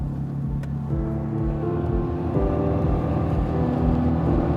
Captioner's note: motor purring